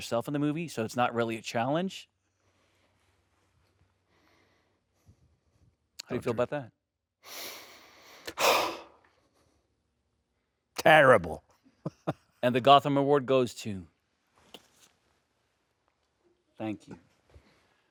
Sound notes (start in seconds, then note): 8.3 Stellan sighs; 11.8 chuckling